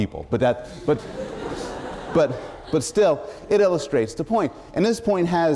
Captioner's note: laughter